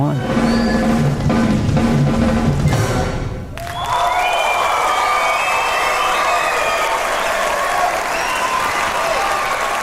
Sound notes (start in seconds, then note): 0.0 drumming; 3.5 applause and cheering